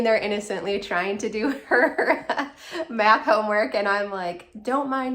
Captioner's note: laughing